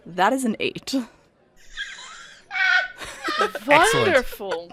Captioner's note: absolutely loses it laughing